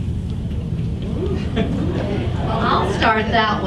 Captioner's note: audience murmurs